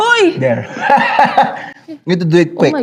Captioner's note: laughs